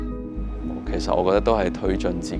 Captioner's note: Cantonese